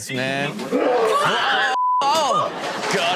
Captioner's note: man roars; beep